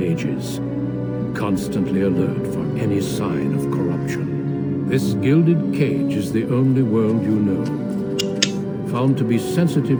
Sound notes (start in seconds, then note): 8.1 clicking noises